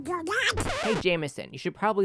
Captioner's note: record Scratch